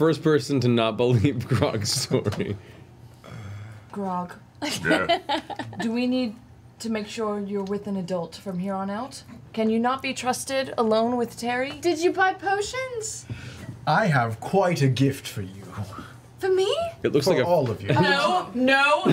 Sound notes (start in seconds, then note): 4.5 quietly; 4.6 laughs